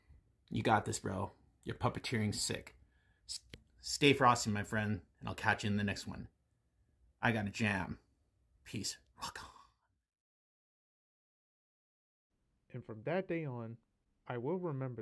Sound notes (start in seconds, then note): 8.5 whispers